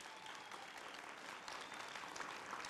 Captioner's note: applause